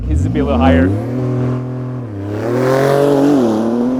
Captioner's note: car engine revving